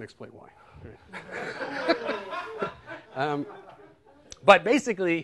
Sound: laughter

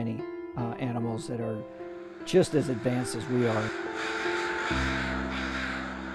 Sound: crows cawing

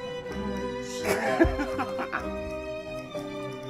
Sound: Tom laughing

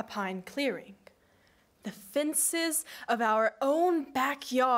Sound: none

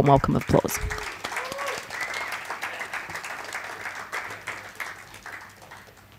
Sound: audience cheers and applauds

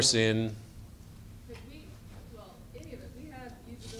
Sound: voiceover

